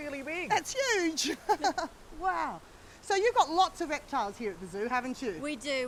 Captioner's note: laughs